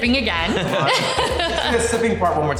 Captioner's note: chuckling